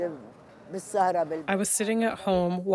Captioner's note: through translator